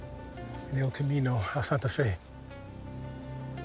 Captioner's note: speaking spanish